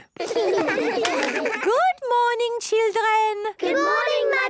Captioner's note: claps